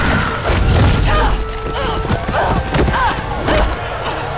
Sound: grunting

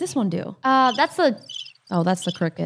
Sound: crickets chirping

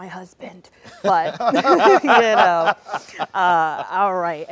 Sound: hosts laughing

